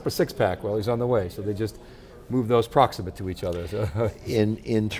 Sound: laughs

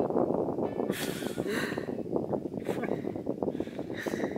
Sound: both laugh

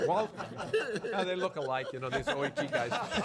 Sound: laughing

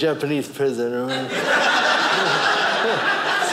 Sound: audience laughing

